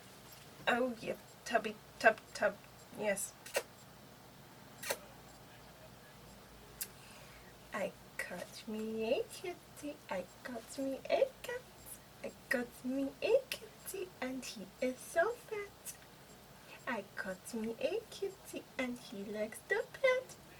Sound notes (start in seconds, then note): 3.4 kiss; 6.6 sings